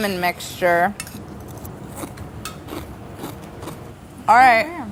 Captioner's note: crunching